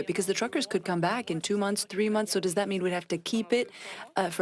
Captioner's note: speaking French